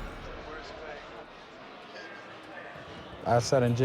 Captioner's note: cell door slams